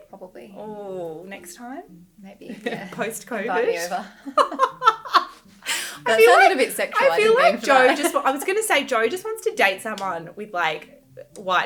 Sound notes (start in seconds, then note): 4.2 laughing